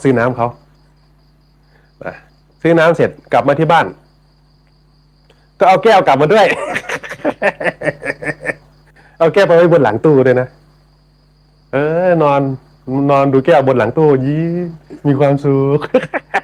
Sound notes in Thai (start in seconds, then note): 6.3 เสียงหัวเราะ; 15.6 เสียงหัวเราะ